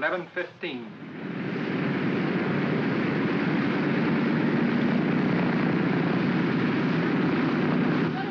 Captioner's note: aircraft rumbling